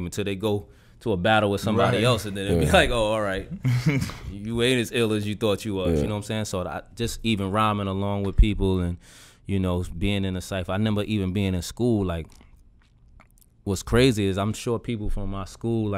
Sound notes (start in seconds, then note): 3.3 Quentin laughs